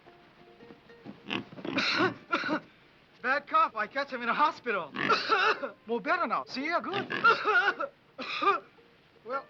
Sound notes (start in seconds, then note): 1.2 pig snorting; 1.7 Tommy coughs; 4.9 pig snorting; 5.0 Tommy coughs; 6.9 pig snorting; 7.1 Tommy coughs